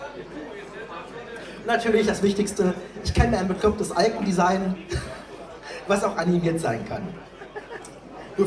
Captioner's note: giggle